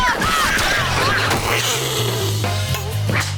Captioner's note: growling